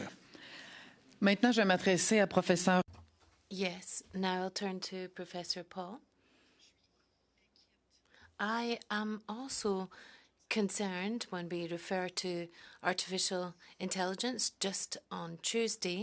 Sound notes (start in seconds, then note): 11.3 speaking French